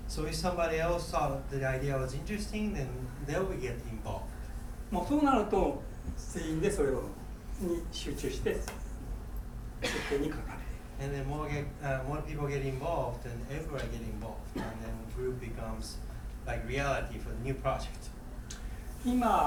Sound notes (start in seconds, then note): 5.1 speaking in foreign language; 9.8 coughing; 19.2 speaking in foreign language